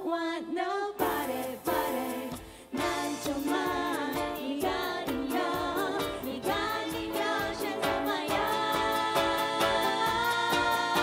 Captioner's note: korean